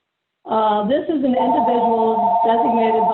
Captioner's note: phone ringing